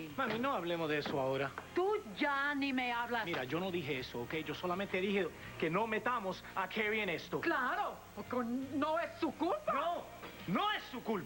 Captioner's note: speaking in spanish